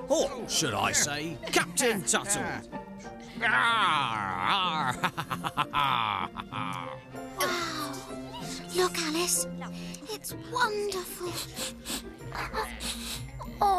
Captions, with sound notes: OR SHOULD I SAY, CAPTAIN TUTTLE? ARR, ARRR! ( Laughing ) WOW! LOOK, ALICE! IT'S WONDERFUL! ( Sniffing )